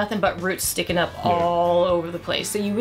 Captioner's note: none